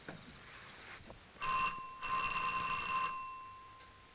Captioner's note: telephone ringing